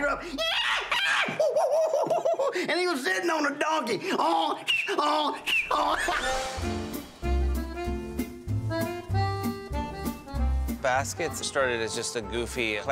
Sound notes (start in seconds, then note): 0.4 making monkey sounds; 4.2 making donkey noise